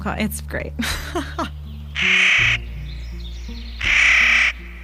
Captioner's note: nutcracker call